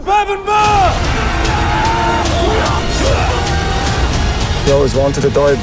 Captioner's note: warriors shouting